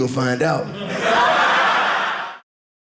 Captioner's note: audience laughing